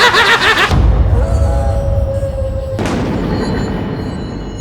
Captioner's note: cackling; wolf howling